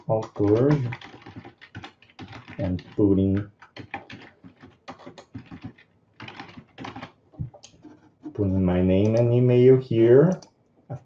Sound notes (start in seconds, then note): 4.0 computer keys clicking